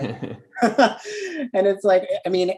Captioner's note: laugh